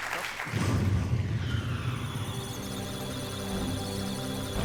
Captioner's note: applause; electronic sounds of data; musical tones